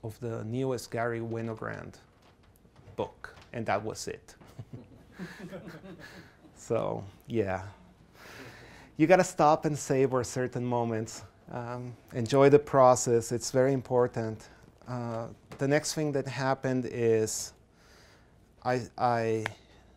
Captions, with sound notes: the newest Garry Winogrand book, and that was it. (class laughs) So, yeah, you gotta stop and savor certain moments. Enjoy the process, it's very important. The next thing that happened is I presented